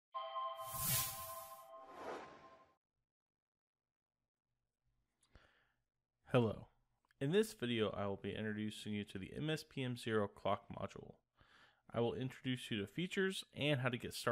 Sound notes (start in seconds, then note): 0.6 swoosh